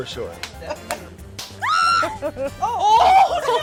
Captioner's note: chuckles; squeals